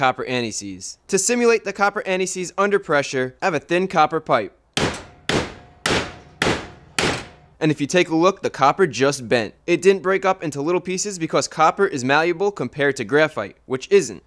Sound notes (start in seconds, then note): 4.8 hammer blows to copper pipe